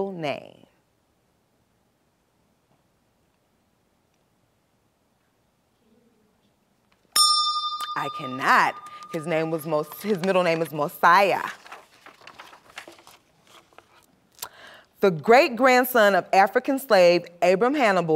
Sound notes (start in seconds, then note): 7.1 bell rings, time expires